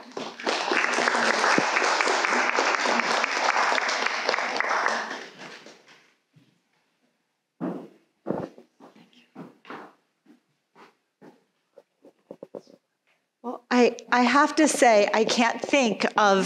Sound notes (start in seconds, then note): 0.0 audience laughing; 0.0 audience applauding; 8.2 footsteps approaching